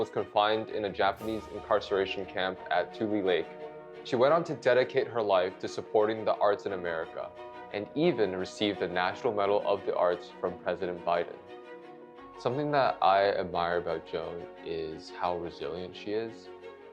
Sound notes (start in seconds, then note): none